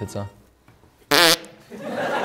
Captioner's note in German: Furzgeräusch